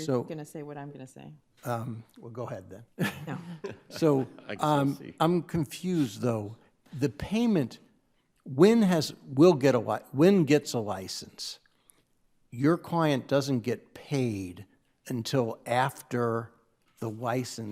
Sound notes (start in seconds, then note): 3.0 lawyers chuckling